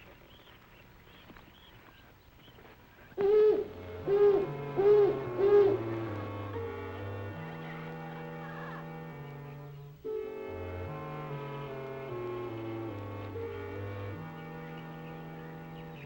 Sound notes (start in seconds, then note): 3.5 mysterious music; 4.0 owl hooting; 6.9 birds chirping; 6.9 mysterious music